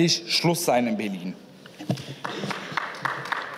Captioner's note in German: Beifall